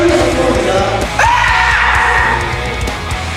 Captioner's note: peak-level battle cry